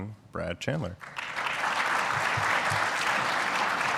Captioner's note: audience applauding